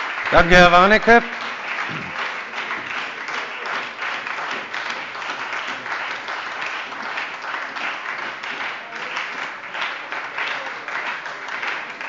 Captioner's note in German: Beifall bei der SPD und der FDP